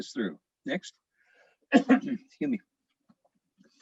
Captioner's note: coughs